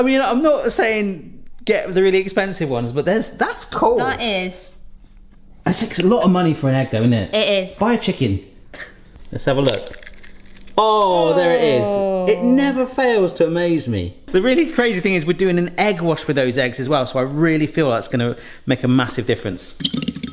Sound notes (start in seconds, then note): 9.6 egg cracking; 20.1 forks tapping